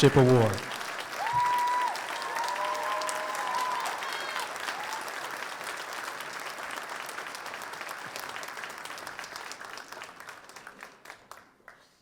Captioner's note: applause